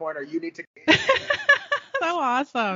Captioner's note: laughing